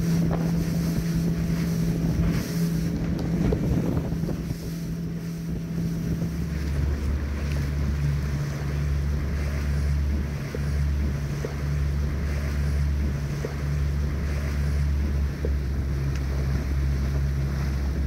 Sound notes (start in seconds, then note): 5.1 wind; 13.6 waves lapping